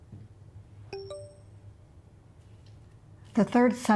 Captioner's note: phone beeps